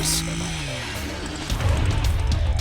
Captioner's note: engine roaring; aggressive music